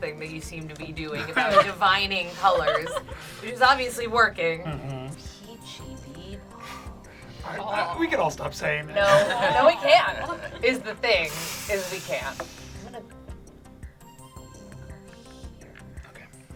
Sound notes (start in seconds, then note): 7.3 laughs